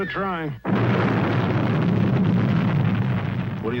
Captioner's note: bomb exploding aggressively